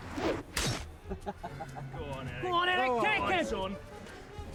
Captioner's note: man laughs